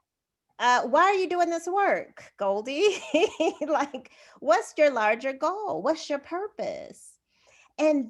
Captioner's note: laughter